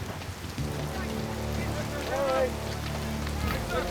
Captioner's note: men chattering